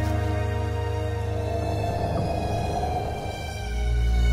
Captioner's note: wind whooshes; mysterious orchestral music continues